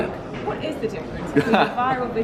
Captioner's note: laughs